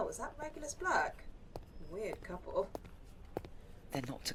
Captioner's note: footsteps